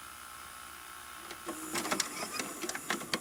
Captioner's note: whirring